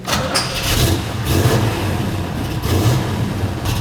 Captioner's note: engine rumbles